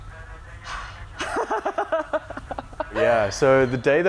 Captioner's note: laughing